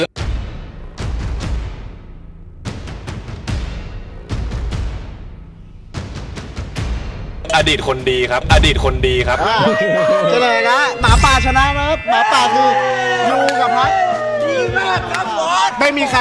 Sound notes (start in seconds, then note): 0.2 tense music builds; 10.7 cheering; 12.0 applauding